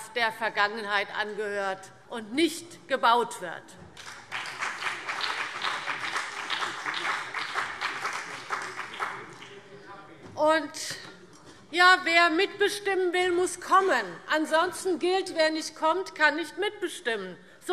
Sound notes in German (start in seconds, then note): 3.9 Beifall BÜNDNIS 90/DIE GRÜNEN